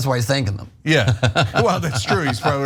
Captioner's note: laugh